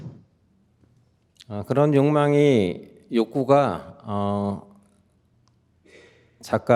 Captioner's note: speaking in Korean